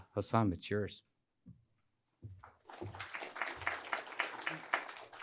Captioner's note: applause